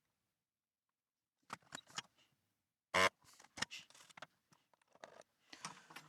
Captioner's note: buzzer Buzzing